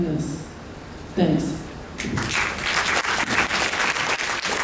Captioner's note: applause